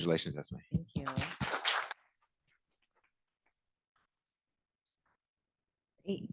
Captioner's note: applause